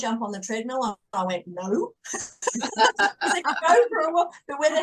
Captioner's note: everyone is laughing